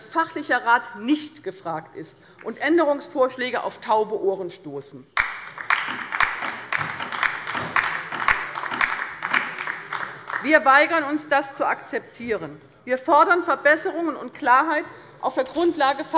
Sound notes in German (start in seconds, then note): 5.1 Beifall bei der LINKEN und bei Abgeordneten der SPD